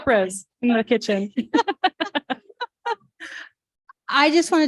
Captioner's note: laughter